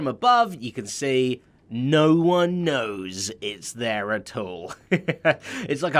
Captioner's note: chuckles